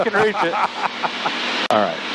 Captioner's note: laughing